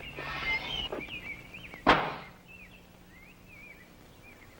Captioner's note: gate thuds shut; gate creaks open